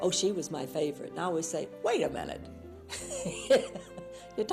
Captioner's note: laughs